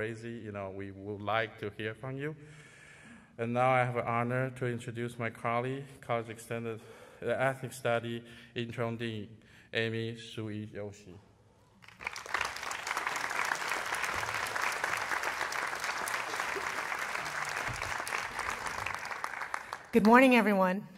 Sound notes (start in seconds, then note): 11.8 applause